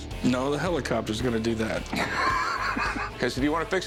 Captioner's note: laughs